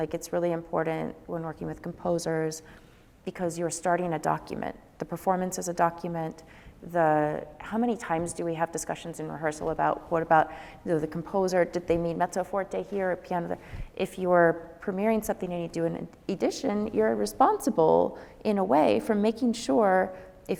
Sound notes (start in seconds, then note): none